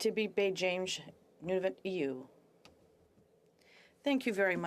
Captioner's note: speaking French